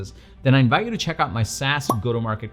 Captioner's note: pop